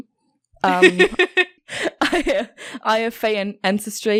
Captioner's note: laughing; laughs